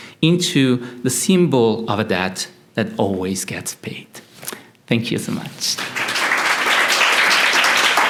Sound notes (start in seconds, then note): 5.7 applause